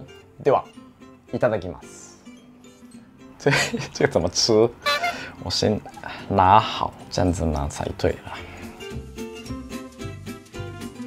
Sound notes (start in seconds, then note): 3.4 laugh